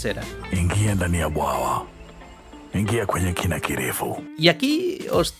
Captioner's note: speaks in Swahili